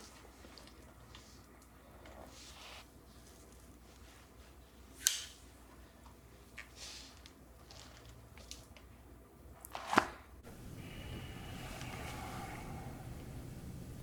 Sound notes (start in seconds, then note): 9.8 folder thuds